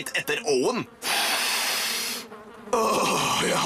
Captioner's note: inhales deeply